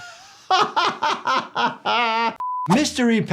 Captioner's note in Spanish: se ríe